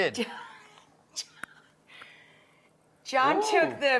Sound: laughs

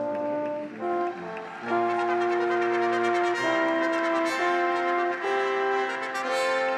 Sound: audience applauds; graduates cheer

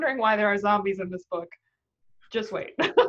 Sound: laughs

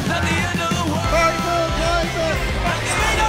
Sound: chanting; upbeat Music

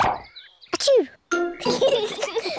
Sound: sneezes; both giggle

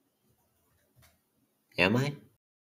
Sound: awkward silence

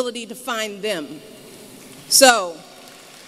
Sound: applause

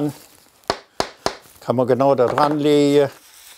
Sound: he bangs

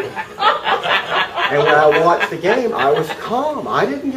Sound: group laughter

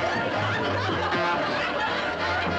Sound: honks; sound of birds chirping

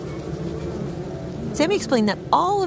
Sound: buzzing!

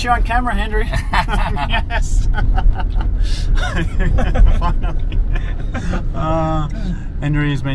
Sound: laughing

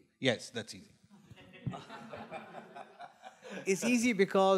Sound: panel laughs

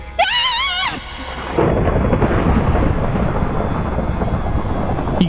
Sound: thunder

